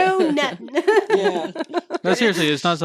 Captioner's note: laughing